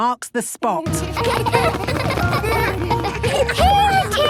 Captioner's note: laughter